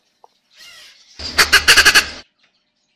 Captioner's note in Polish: skrzek papugi